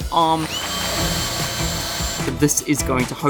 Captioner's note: machine whirring